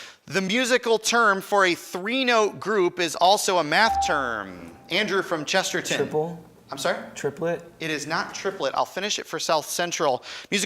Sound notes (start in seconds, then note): 3.9 buzzer chimes